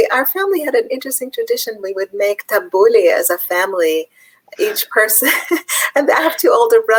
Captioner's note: laughs